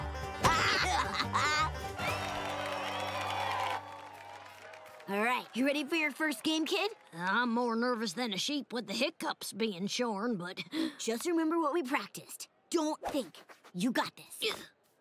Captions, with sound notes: [laughing] [cheering] Alright, ready for your first game kid? I'm more nervous than a sheep with the hiccups being shorn, but... Just remember what we practiced, don't think, you got this.